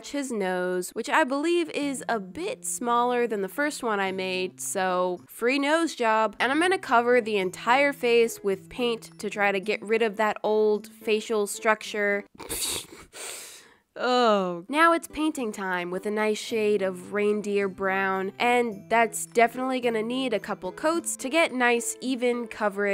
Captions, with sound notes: his nose. That I believe is a bit smaller than the first one. I made. So, free nose job! And I'm gonna cover the entire face with paint to try to get rid of that old facial structure... *laughs* Uh... Now it's painting time, with a nice shade of reindeer brown. And that's definitely gonna need a couple coats to get nice, even coverage.